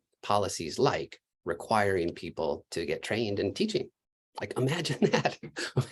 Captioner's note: laughter